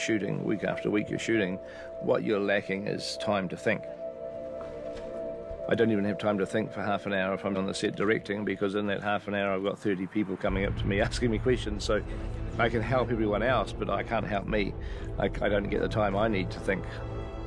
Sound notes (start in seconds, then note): none